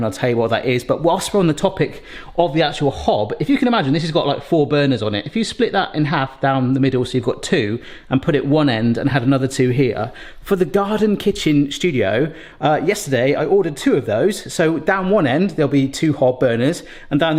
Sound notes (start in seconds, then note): none